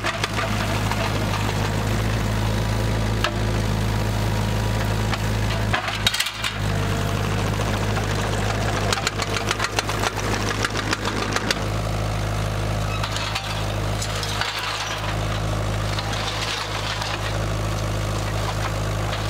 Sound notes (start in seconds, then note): 0.2 engine roaring; 5.5 metal clanking